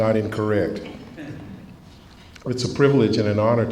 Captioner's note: laughs